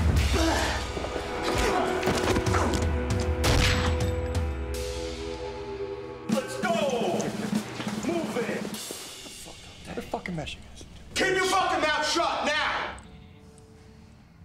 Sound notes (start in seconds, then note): 0.3 groans; 3.4 gunshot